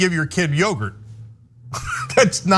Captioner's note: laugh